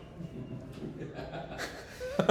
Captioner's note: laughing